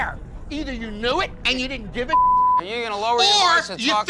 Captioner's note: beep